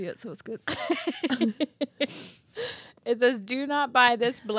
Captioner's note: chuckling